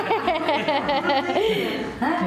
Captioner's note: laughs